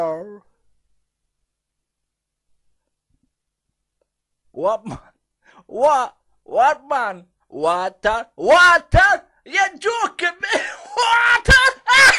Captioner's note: laughs